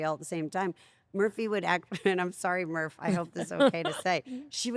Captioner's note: laugh